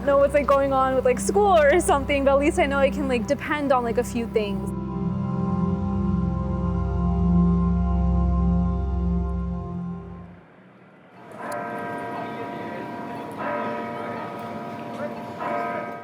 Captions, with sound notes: I might not know what's going on with school or something, but at least I know I can depend on a few things. (low synth music) (clock tower sounding)